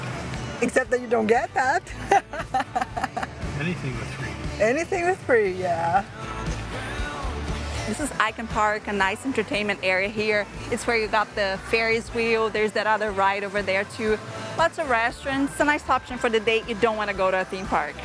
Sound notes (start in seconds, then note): 1.9 laughs